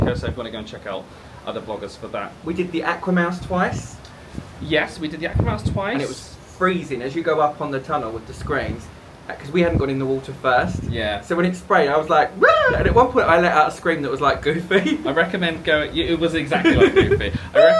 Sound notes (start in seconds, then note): 12.4 squeals; 16.4 laughing